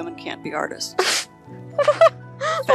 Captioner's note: laughing